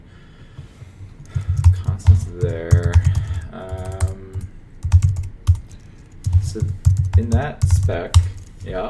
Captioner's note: sighs